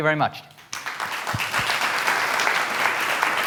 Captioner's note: applause